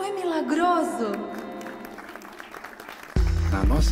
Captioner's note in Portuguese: palmas